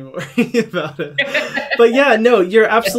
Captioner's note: laughter